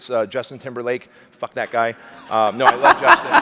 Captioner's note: laughing